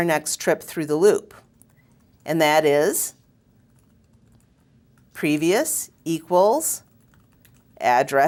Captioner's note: pause